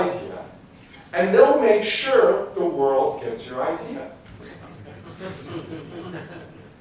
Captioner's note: laughter